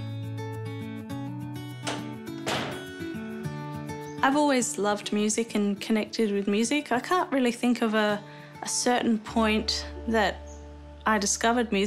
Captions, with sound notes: (LOCK CLICKS) I've always loved music and connected with music. I can't really think of a certain point that I discovered music.